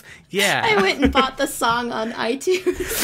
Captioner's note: laughs